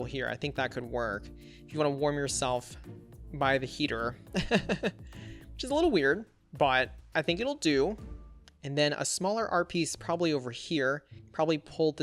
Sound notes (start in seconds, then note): 4.4 laughs